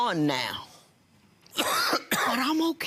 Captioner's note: coughs